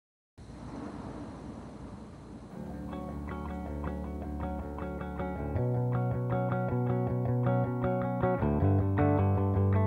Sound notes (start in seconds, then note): 0.4 crickets chirping; 2.5 mellow rock music